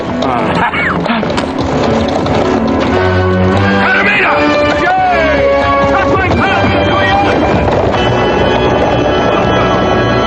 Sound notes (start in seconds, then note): 3.5 men shouting in native language; 6.9 horses galloping away